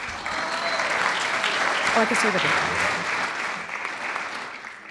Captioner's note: clapping